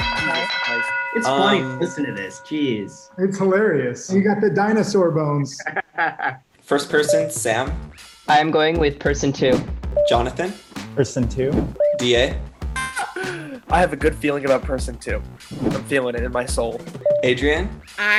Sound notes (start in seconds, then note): 0.0 alarm dings; 5.5 laughs; 12.9 screams